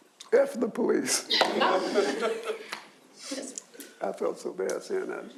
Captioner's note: audience chuckles